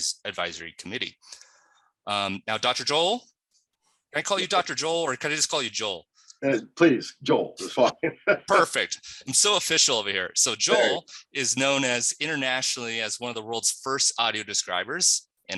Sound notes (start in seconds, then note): 7.4 laughs